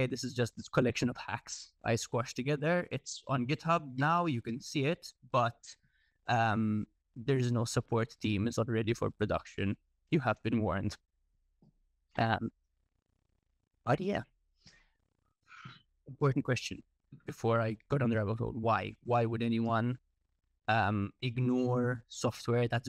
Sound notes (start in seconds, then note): none